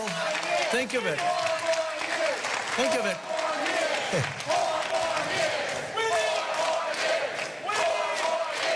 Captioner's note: cheering and applause